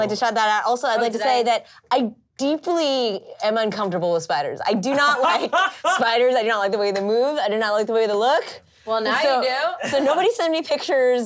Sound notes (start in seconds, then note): 5.0 laughs